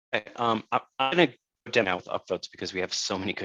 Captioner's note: audio distorts